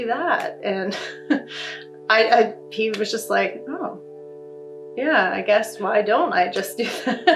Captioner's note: laughs